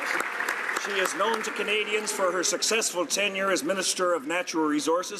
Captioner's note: applause